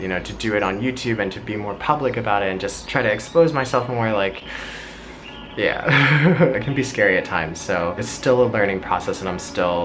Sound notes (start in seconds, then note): 5.8 laughing